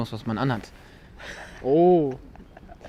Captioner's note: laugh